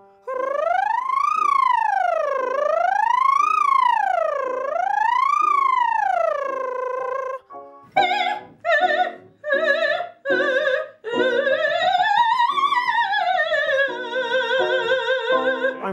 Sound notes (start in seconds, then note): 0.2 voice exercises